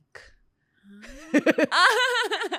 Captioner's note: laughs